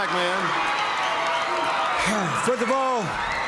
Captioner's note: audience cheering